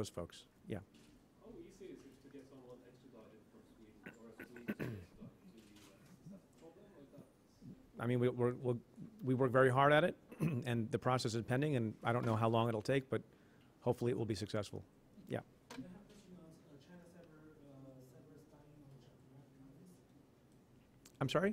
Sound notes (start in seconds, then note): 8.8 stutters